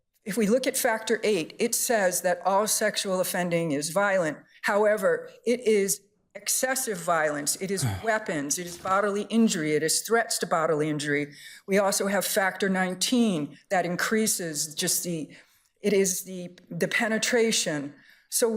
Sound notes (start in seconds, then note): 7.6 justice sighs